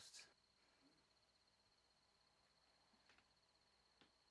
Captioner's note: insects chirping